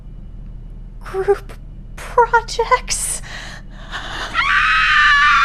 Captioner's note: scream